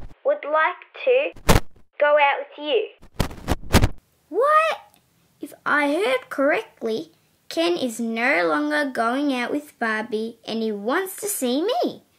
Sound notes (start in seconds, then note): 1.4 crackle!; 3.0 crackle!